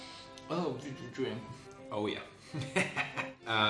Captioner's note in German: lacht